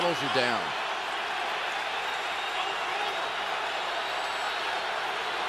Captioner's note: crowd cheering